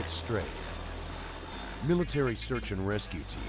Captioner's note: voiceover